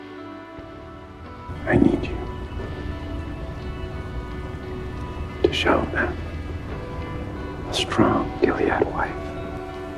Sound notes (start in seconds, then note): 1.8 voiceover